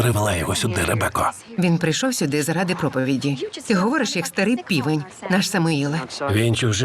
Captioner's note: scoffs